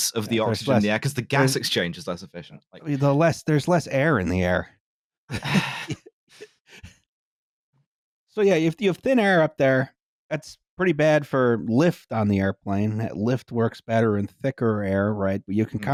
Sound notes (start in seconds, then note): 5.3 chuckles; 5.4 sighs